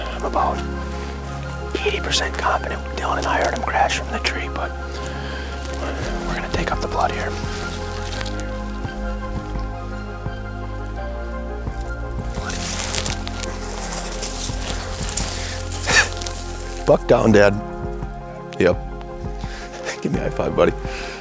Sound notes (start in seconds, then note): 10.2 suspenseful music; 13.0 leaves rustle